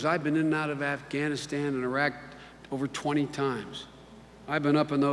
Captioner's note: none